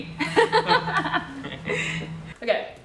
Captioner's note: giggling